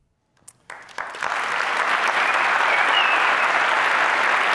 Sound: applause

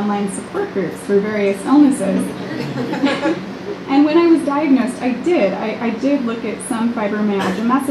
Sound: laughter

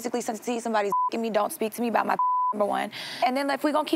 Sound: beep

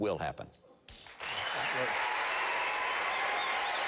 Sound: applause

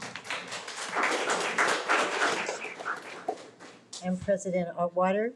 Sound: audience clapping

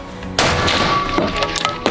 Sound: bam!!!

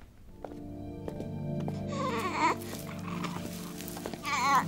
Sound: baby coos

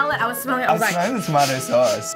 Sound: sniffing

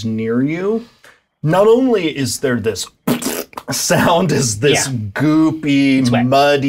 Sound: splorch

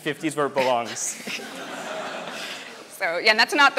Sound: audience laughs

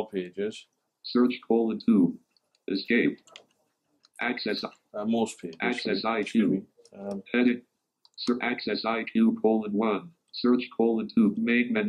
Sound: computerised voice

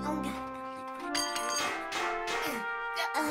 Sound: more banging from tools

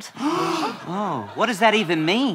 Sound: collective gasp

